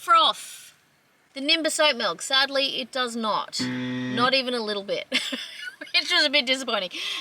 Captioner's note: laughs